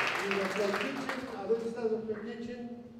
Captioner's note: non-english speech